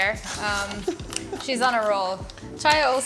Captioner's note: Yotam laughs